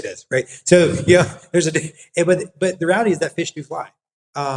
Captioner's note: laugh